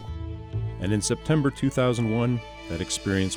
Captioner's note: voiceover